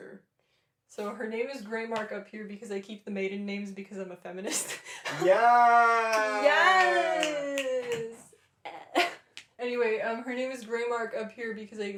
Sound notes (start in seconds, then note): 5.2 laughter